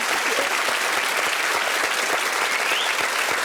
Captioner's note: audience cheering